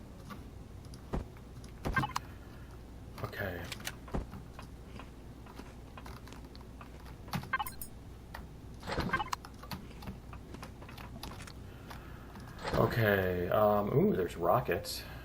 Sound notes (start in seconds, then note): 0.1 weapons click; 5.1 munching continues